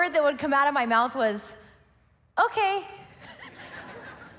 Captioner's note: laughs